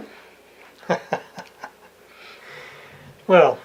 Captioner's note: laughing